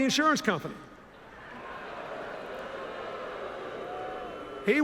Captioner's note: laughter, boos